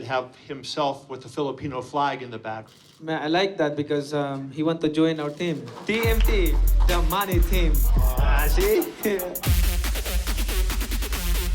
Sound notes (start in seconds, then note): 8.5 chuckles